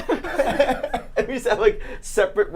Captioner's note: laugh; giggles